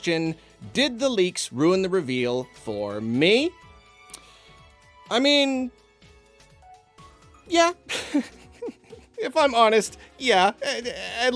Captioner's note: laughs